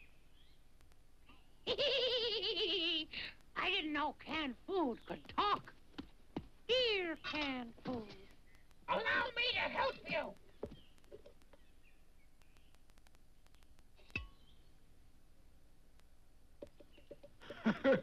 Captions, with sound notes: - (laughs) I didn't know canned food could talk. Here, canned food, allow me to help you! (house laughs)